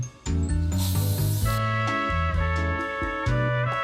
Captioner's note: hairspray hissing; lively music continues